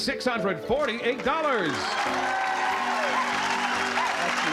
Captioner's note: cheering